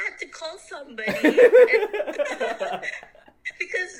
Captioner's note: laughing out loud